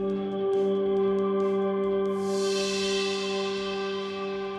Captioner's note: magic chimes